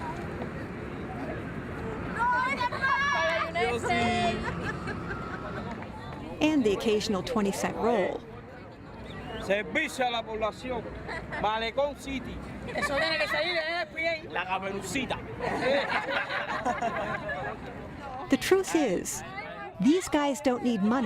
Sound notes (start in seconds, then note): 0.2 speaking spanish; 7.2 laughter